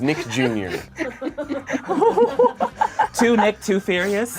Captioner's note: laughs